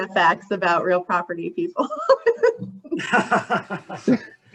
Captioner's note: laughs